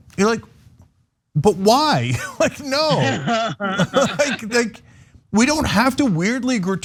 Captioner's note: laugh